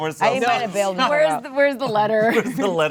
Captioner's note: overlapping chatter